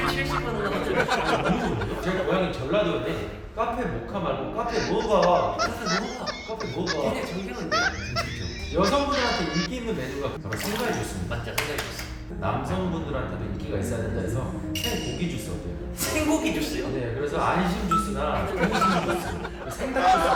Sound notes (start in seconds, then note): 0.0 laughter; 6.3 in Jeolla dialect; 8.5 keeps laughing